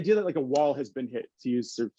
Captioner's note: fist slapping